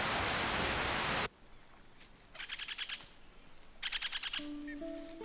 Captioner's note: animal chatters